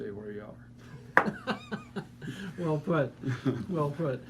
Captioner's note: laughing